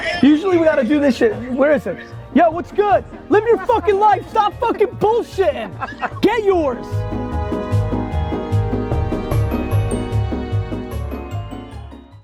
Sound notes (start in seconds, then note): 5.7 man laughing; 7.4 bright upbeat music